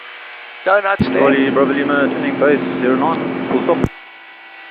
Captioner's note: radio